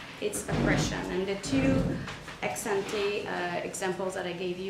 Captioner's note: speaks foreign language